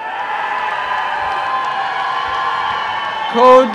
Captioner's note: applause and cheering